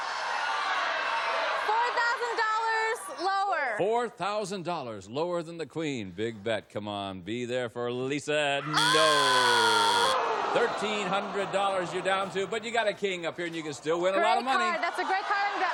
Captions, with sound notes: -I'm going to go $4,000 lower. -Four thousand dollars lower than the queen. Big bet. Come on, be there for Lisa -- no! (buzzer) Thirteen hundred dollars you're down to, but you've got a king up here,